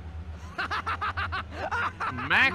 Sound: maniacal laughter

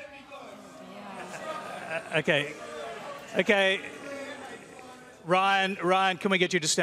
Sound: audience groans

